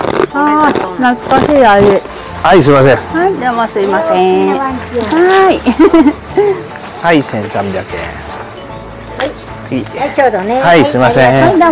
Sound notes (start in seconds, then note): 5.4 laughs